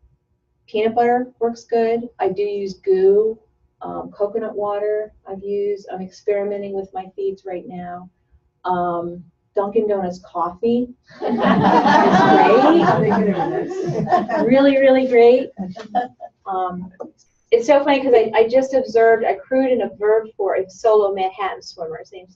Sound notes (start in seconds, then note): 11.2 laughter